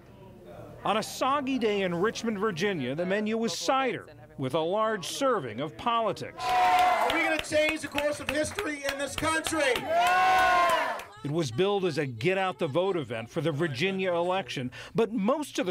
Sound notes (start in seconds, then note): 9.7 cheering and applause